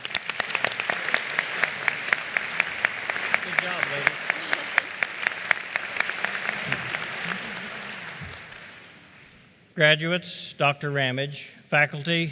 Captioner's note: applause